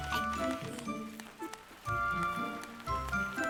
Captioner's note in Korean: 물 흐르는 소리